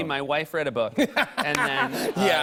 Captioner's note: laughter